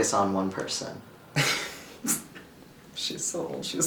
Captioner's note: laughs